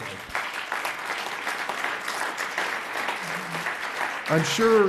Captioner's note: audience applauds